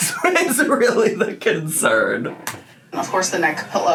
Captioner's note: laughs